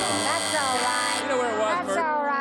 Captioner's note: buzzing